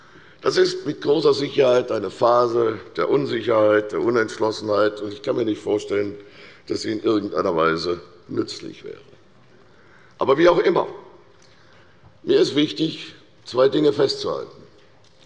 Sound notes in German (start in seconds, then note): none